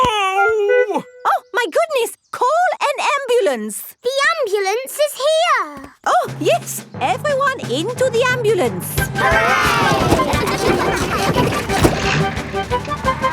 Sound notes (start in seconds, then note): 9.2 giggling